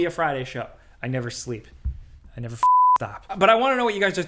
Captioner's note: beep